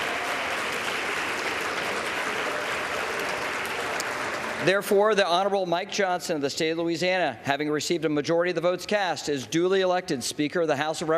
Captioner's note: applause